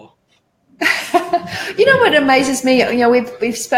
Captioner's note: laughing